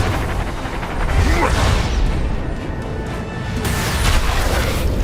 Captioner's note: grunts